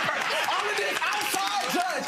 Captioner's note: audience laughing